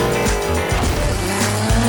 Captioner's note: boom!